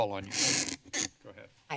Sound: squeaking noise

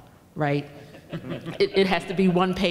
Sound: laughing

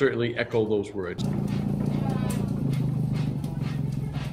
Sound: motor running

